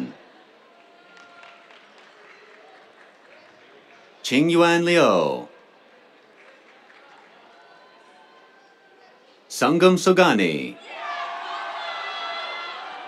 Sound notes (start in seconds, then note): 0.2 applause; 10.3 cheers